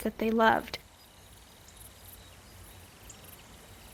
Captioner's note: birds chirping